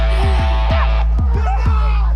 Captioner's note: chuckles; yelling